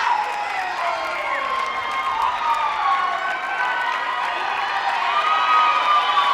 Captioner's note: audience cheering continues